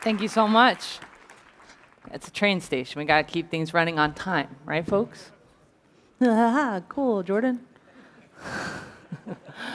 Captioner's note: applause